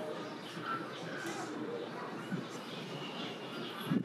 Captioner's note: bird chirping